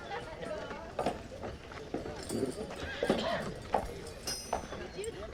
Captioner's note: people chattering